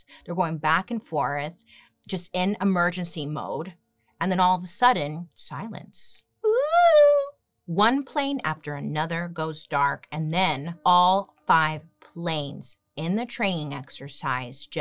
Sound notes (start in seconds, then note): 6.9 giggles